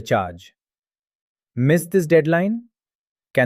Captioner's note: pause